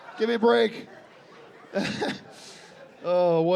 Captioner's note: chuckles